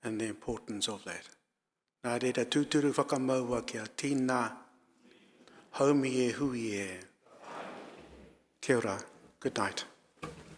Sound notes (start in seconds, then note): 2.1 speaking in foreign language; 7.6 audience speaking in foreign language